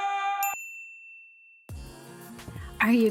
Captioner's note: bell chiming